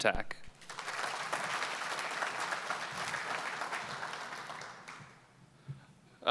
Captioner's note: applause